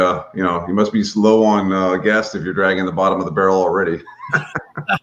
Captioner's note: laughs